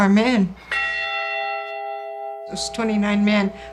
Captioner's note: bell rings